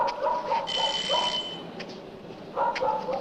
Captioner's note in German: Türklingelt